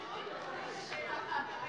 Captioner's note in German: Heiterkeit!